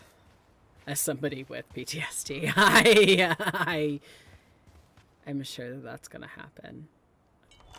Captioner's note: laughs